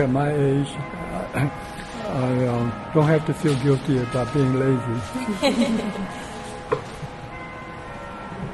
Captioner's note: laughter